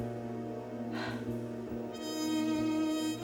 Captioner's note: sighs